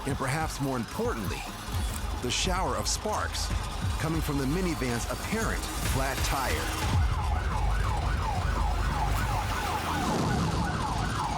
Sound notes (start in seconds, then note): 6.9 sirens wailing